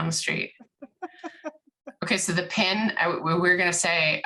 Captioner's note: laughs